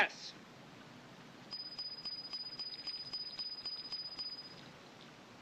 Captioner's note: pinging